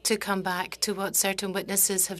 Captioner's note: speaking French